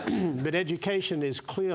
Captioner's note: cough